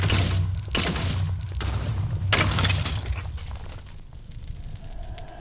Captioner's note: none